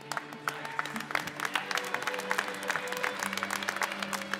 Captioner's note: applause